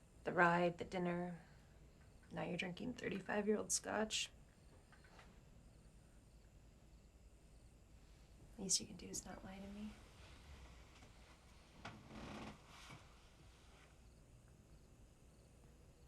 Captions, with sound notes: The ride, the dinner. Now you're drinking 35 year old scotch. (crickets chirping) Least you can do is not lie to me. (crickets chirping) (bed creaks) (crickets chirping)